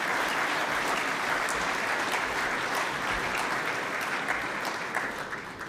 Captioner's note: applause